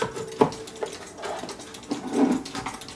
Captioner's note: ticking